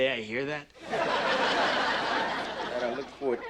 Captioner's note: audience laughing